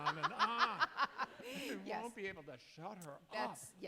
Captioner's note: laughs